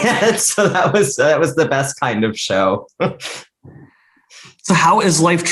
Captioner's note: laughs; chuckles